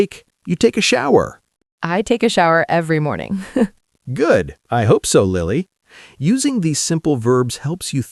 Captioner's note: laughs